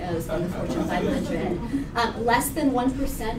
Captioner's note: laughter